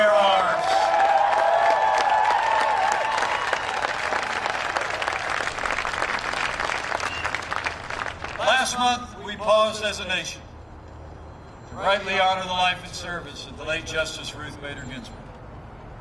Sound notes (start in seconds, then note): 0.0 cheering and applause